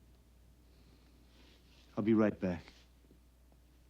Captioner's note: exhales